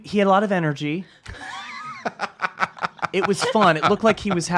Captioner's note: laughs